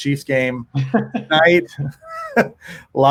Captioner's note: laughs